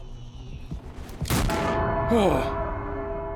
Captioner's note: gun fires; Skull sighs